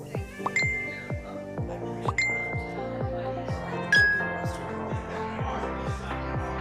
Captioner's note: upbeat music; bell dinging